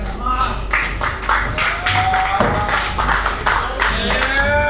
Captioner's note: applause